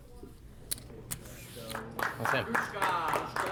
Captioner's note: crowd clapping